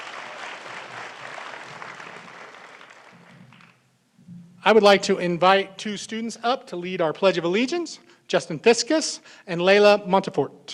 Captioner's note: applause